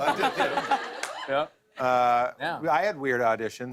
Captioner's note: laughter